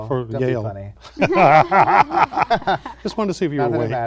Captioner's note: laughter